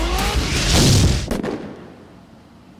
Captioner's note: gunshot